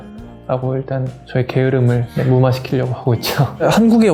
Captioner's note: laugh